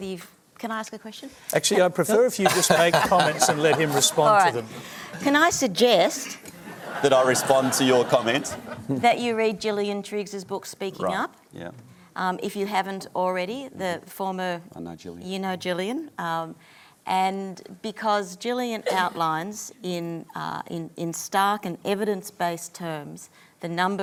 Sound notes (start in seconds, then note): 2.4 laughter; 6.5 laughter